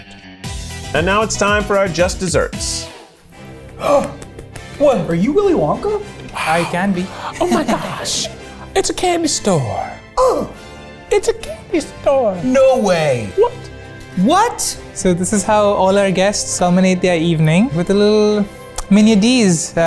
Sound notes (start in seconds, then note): 0.2 upbeat music; 3.8 gasps; 3.8 regal orchestral music; 10.1 gasps